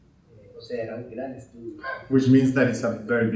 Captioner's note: speaking in Spanish